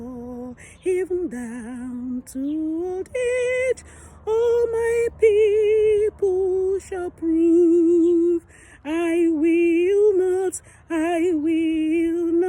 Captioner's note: humming